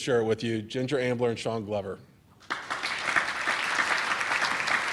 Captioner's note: applause